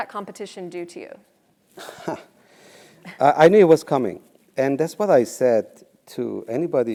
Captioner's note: laugh